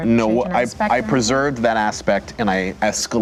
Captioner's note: none